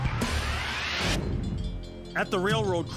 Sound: bells ringing

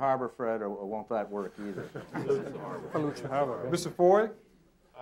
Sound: audience laughing

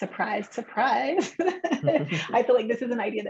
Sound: chuckles

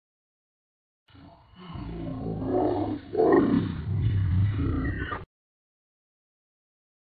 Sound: creature sound

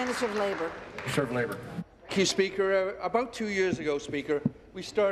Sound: applause

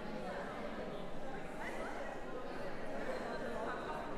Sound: background conversations

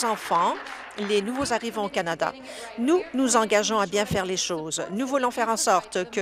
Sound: applause

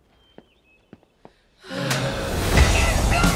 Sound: groan

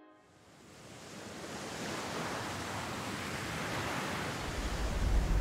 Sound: ocean waves crashing

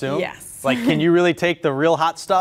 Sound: chuckles

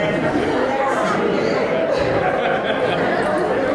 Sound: laughter and cheers

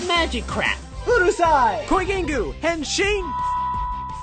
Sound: Trainer Sam speaking in foreign language; graphics chiming

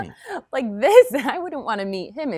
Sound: chuckles

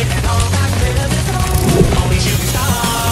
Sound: time fwoop

